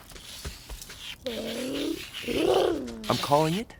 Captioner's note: purrs